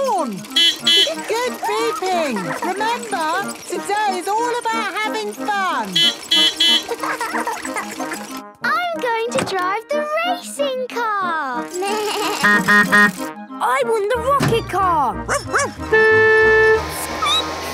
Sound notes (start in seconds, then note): 0.4 beeping; 5.8 beeping; 6.6 laughing; 11.9 bleating; 12.3 honking; 15.3 barking; 15.3 honking; 15.3 squeaking